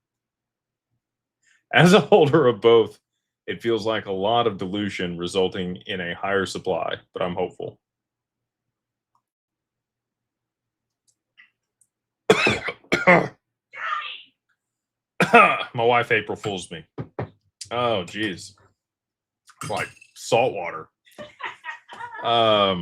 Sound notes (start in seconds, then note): 15.2 cough and clears throat